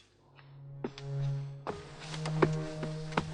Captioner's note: steps